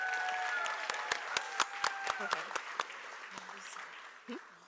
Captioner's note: applause